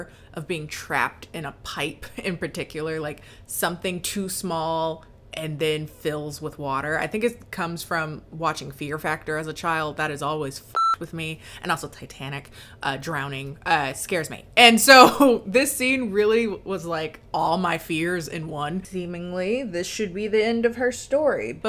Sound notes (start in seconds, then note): 10.7 beeps